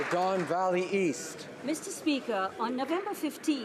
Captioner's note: applause